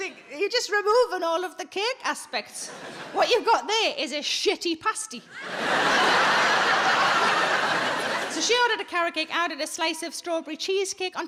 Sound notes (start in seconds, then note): 5.3 audience laughing